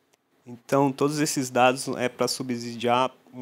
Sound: non-english speech

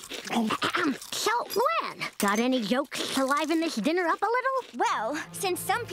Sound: Lisa clears her throat

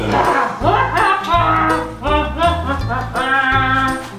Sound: Donald hums

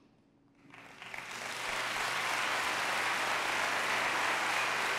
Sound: applause

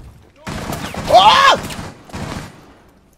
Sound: yells

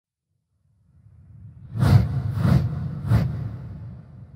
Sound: air whooshing

